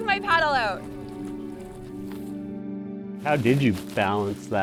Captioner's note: gentle music continues; water sloshes